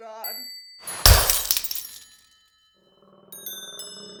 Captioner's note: mirror breaking